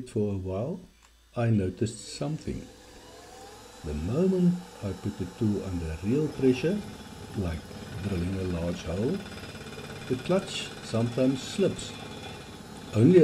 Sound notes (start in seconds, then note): 7.3 like drilling a large hole